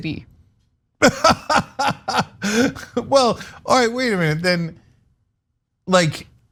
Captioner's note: laugh